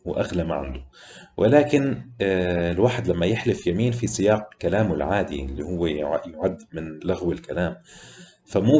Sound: idle talk

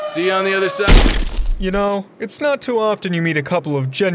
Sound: bodies splat

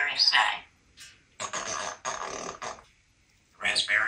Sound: raspberry sound

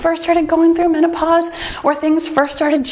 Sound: timer beeps

